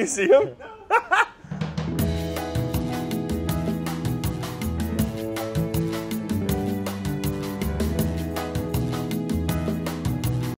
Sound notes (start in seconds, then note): 0.2 laughs; 1.4 smooth music